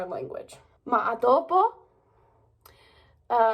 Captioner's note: in Italian